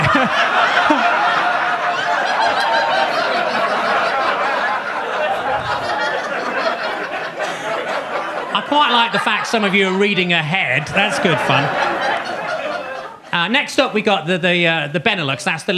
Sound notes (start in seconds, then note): 0.3 audience laughs; 11.9 audience laughs